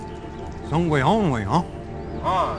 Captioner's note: speaking Mohawk; fighter speaking Mohawk